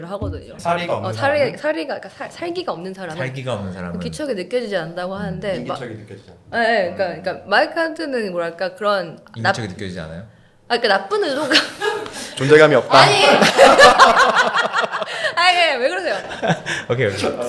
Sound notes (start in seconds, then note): 13.0 ha ha